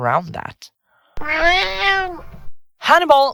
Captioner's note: cat meows